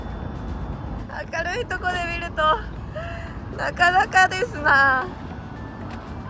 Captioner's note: laughs